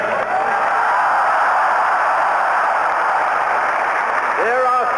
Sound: cheering

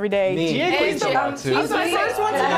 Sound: group chattering

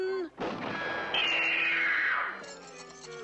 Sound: shots firing

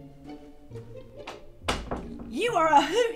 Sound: door closes

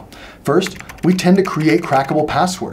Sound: typing

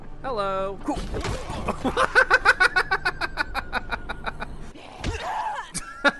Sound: laughter; thud

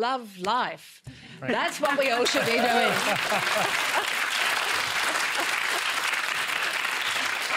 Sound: cheering and applause

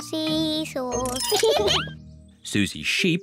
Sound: both laugh

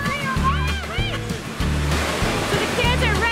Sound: exclaims

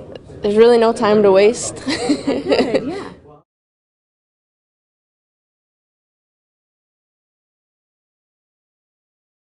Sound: laughter

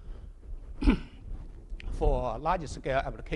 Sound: clearing throat

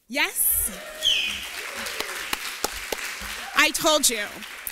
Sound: cheers

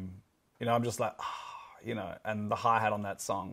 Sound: sighs

